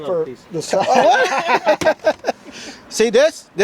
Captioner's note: laughter